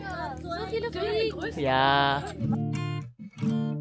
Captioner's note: speaking German